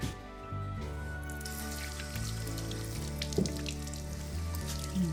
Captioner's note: water running; kisses